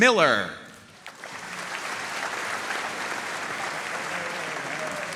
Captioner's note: audience applauding